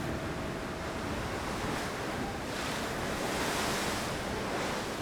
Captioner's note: waves crashing